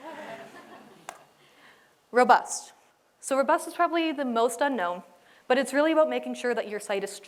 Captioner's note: laughter